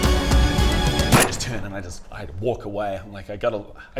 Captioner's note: bang